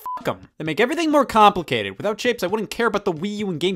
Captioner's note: beep